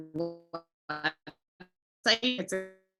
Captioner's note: audio drop